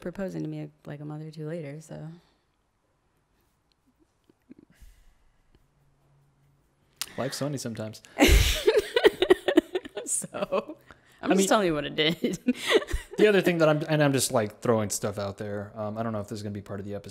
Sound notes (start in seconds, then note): 8.2 laughs